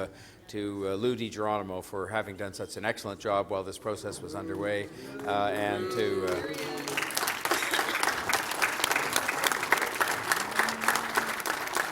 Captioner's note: applause